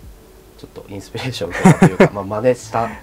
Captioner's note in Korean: 웃음